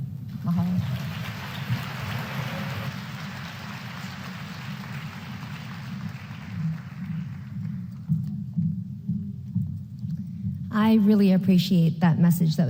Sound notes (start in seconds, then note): 2.3 applause